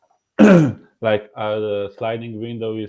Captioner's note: clearing throat